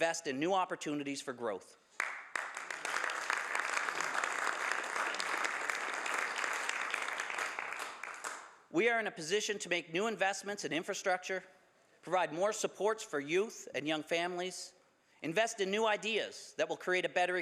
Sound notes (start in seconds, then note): 8.1 some Applause